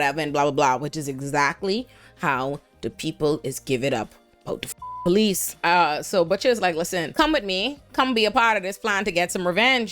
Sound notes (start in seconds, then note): 4.7 beep